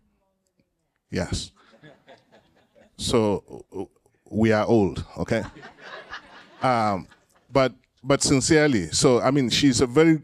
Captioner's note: laughter